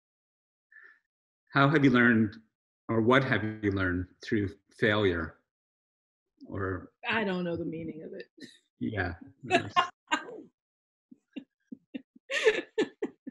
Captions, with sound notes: - How have you learned or what have you learned through failure? Or... - I don't know the meaning of it. (laughs) - Yeah.